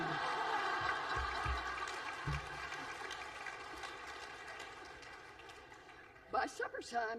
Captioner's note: laughter